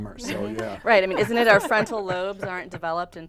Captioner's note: laughing